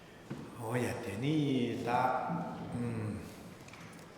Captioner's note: speaking tibetan